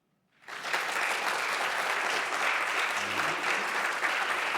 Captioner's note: audience applauding